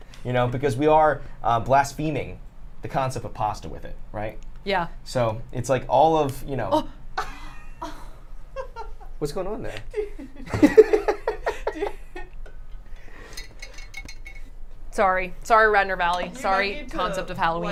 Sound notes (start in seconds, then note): 7.2 laughs; 9.7 laughs